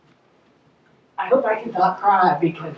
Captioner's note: voiceover